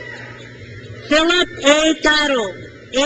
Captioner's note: crowd cheers